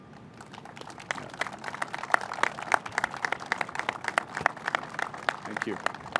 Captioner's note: applause